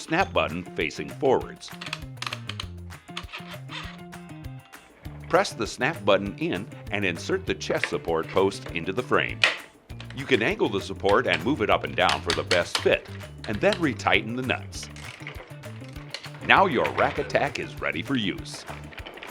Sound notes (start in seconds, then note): 1.7 clicking noise